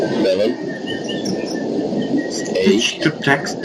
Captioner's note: birds chirping